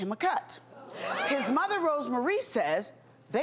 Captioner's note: audience gasps